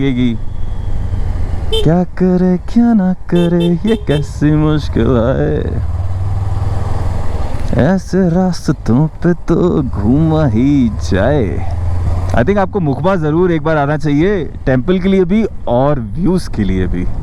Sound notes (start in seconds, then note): 3.1 humming